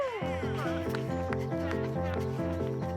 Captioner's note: crowd cheering and applauding